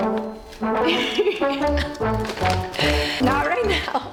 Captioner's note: laughs